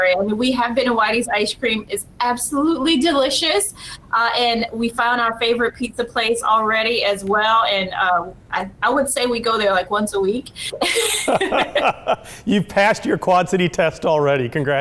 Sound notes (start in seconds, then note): 10.7 laughs